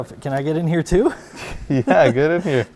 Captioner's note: both laughing